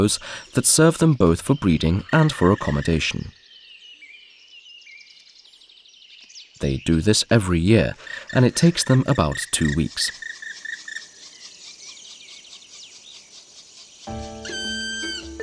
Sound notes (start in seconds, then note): 3.5 sounds of nature; 10.3 music, sounds of nature